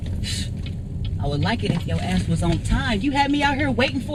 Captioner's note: scoffing